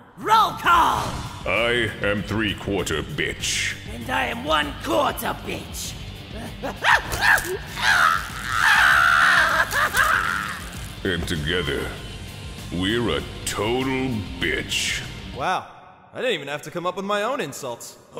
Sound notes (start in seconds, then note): 6.6 horrible shrieks of pain and laughter; 8.6 crack! crack!